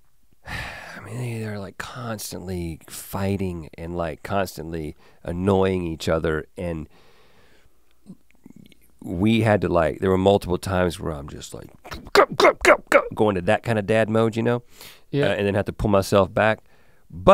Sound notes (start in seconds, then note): 0.4 sighs; 12.0 grunting angrily